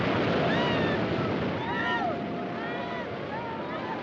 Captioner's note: Gritos, soluços